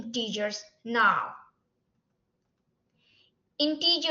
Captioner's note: silence